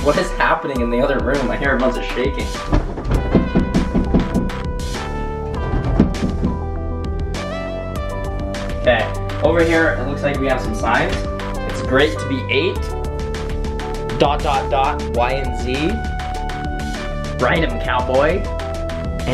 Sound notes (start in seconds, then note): 1.7 shakes bed against wall